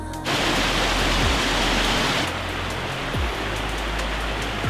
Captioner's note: water rushing rapidly